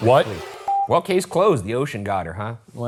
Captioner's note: violins screeching; screen beeping